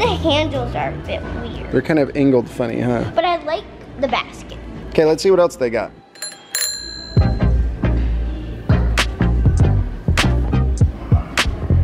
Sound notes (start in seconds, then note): 6.1 bell dinging; 6.1 playful music